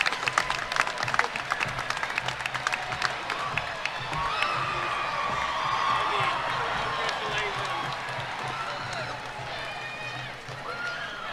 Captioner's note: applause